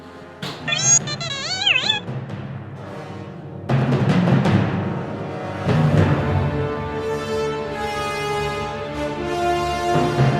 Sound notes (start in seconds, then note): 0.9 BB-21 speaks gibberish; 4.9 suspenseful orchestral music